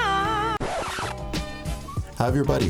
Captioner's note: record scratching